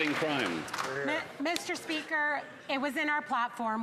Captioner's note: some Applause